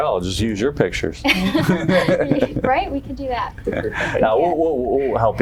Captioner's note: panel members laugh